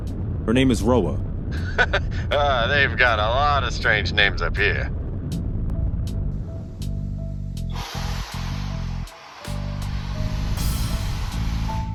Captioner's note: Arc laughs